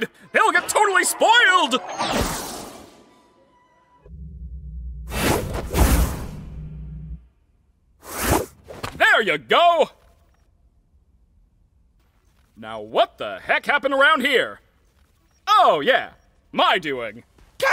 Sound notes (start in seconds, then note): 5.0 Caine whooshing